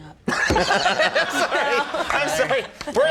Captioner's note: Andy laughing; Conan laughing